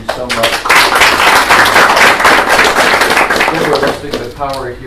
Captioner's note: applause